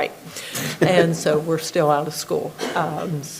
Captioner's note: everybody laughing